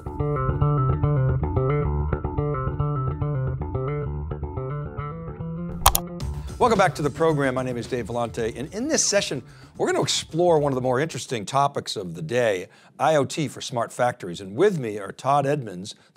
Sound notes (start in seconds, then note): 0.1 upbeat guitar music; 5.8 keyboard clicks